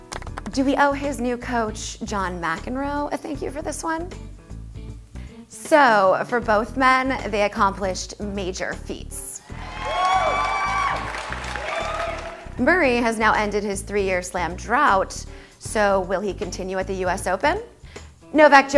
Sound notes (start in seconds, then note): 9.5 cheering